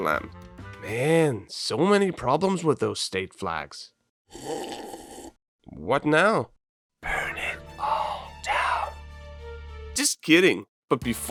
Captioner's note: slurp